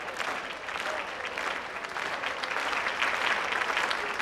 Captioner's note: clapping rhythmically